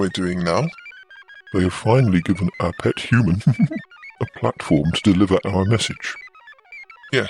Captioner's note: laughs